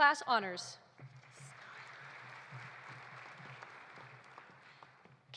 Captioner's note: audience applauding